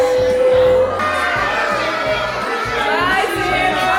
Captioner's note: children cheering